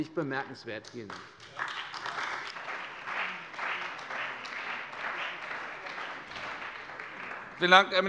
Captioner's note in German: Beifall bei der CDU und dem BÜNDNIS 90/DIE GRÜNEN